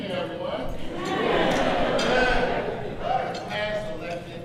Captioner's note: crowd cheers